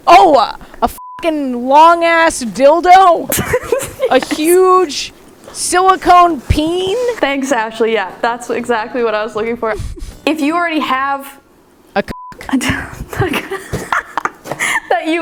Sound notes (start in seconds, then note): 0.9 beep; 3.2 laughing; 12.0 beep; 13.0 laughing